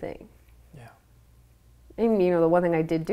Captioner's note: whispers